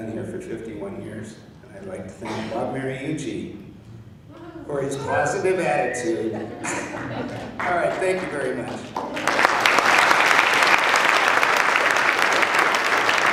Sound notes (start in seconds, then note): 5.9 laughing and cheering; 9.9 applause